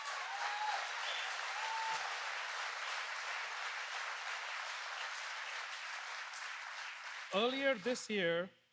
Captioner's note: applause